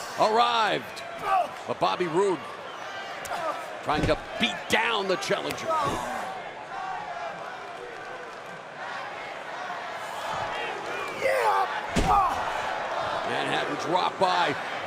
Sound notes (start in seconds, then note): 5.8 crowd cheering